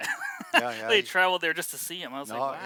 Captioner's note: laughs